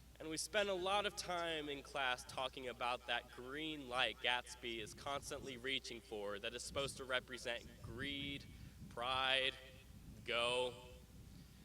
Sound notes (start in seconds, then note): none